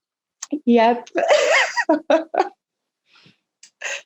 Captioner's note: giggles